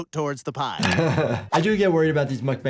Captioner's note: doctor laughs